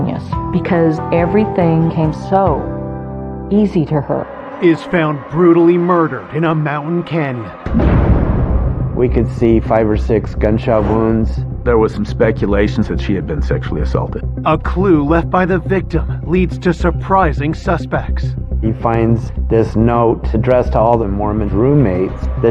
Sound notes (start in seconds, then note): 7.1 suspenseful music; 7.7 gunfire blasting